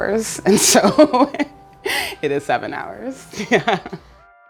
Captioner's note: laughs